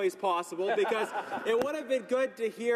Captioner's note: laughter